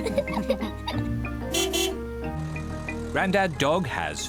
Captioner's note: laughter; horn honks